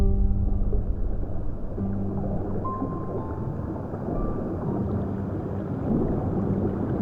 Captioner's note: tense music; water gurgling